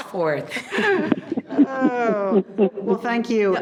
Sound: people laughing

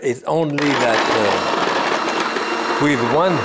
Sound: food processor whirs

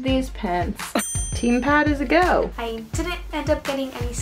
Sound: check dings

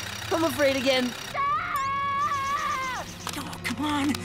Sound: screaming

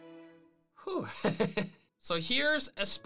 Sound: laughter

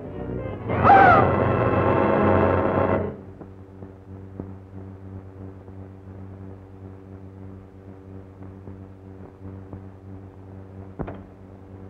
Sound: shriek

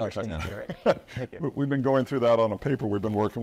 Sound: laughs

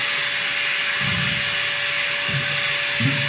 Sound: vacuum go brrrr

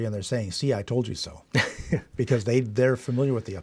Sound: laughs

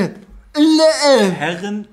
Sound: talking explicitly

